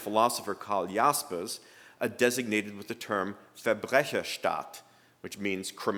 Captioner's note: speaking german